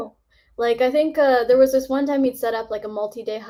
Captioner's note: none